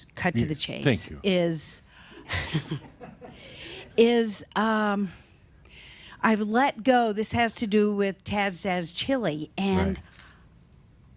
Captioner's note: a few chuckles